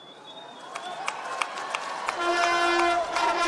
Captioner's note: audience cheering and clapping; upbeat music